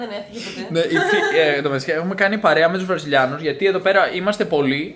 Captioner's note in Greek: γέλια